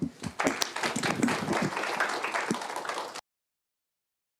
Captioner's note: applause